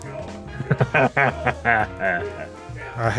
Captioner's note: laughs